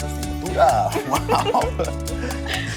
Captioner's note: ríen